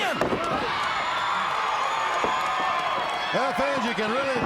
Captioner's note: crowd cheering